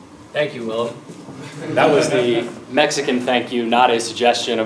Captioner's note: laugh